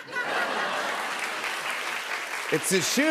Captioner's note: laughter